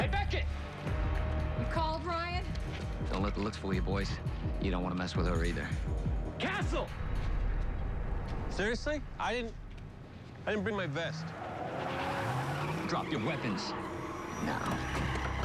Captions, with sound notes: HEY, BECKETT! YOU CALLED, RYAN? DON'T LET THE LOOKS FOOL YOU, BOYS. YOU DON'T WANT TO MESS WITH HER, EITHER. CASTLE! SERIOUSLY? I DIDN'T... I DIDN'T BRING MY VEST. (siren whoops) (sirens wailing) DROP YOUR WEAPONS. NOW.